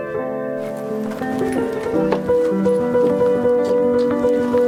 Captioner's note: bedding rustling